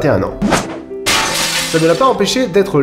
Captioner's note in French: bruit de verre brisé